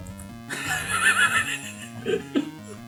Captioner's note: laughs hysterically